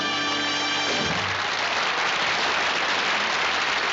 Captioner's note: applause